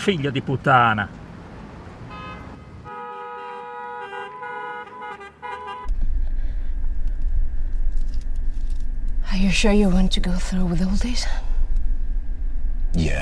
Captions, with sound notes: (speaks in foreign language) (car horns honking) (car engine revving) Are you sure you want to go through with all this?